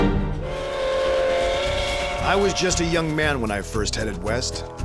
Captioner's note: tense music; train whistle